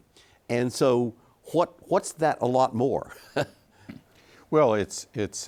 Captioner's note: chuckles